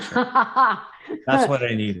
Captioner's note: laughing